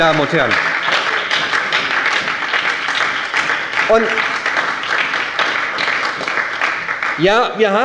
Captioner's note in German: Beifall bei der SPD - Zuruf von der CDU: Gehen Sie doch einmal hin!